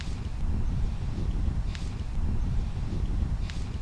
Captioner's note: untying ropes